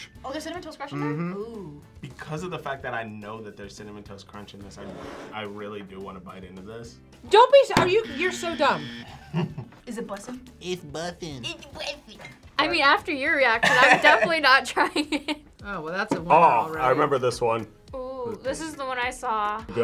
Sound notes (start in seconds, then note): 7.8 buzzer rings; 9.1 laughs